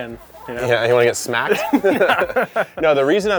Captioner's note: both laugh